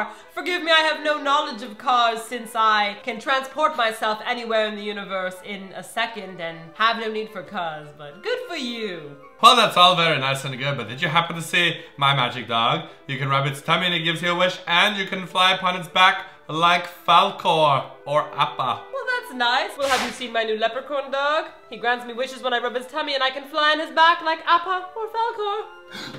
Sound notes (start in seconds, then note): 19.8 swoosh